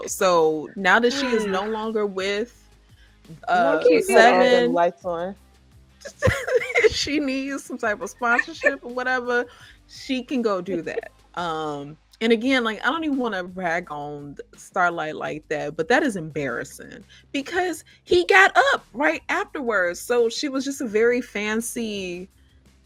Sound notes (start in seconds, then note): 7.8 laughing